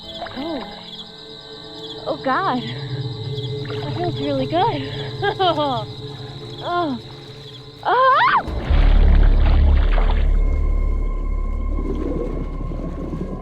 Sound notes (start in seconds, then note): 4.6 Faith Laughing; 7.8 Faith Screaming